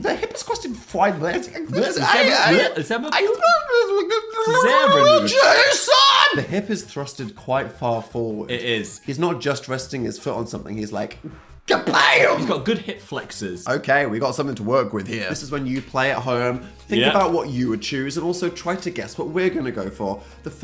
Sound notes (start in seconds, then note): 1.9 Phil and Dan speaking gibberish